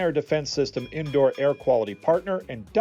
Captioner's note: bell rings